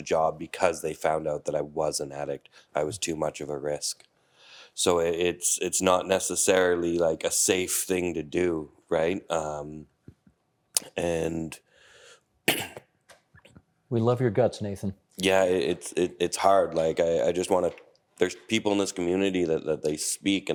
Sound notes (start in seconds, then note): 12.4 coughing